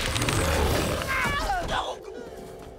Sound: grunting

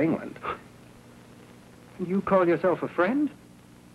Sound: scoffs

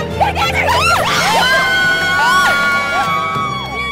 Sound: cheers

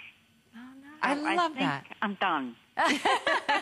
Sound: laughter

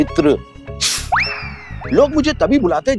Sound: hisses

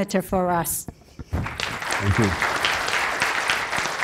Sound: applause

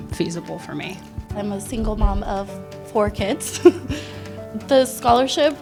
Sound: laughs

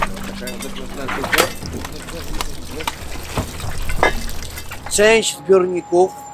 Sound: water droplets falling

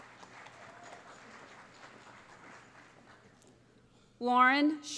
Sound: applause

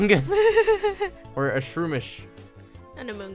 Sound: laughs

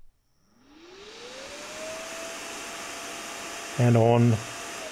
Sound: fan starts whirring

